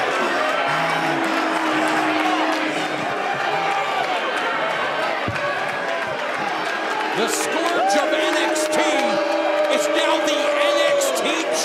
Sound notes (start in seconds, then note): 2.0 breathing hard